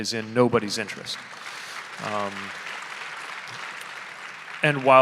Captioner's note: audience applauding